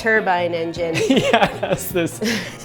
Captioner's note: laughs